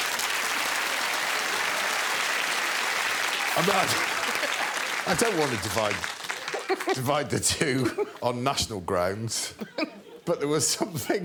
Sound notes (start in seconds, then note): 0.0 applause